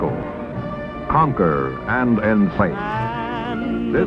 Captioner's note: television